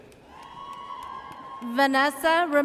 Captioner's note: audience cheers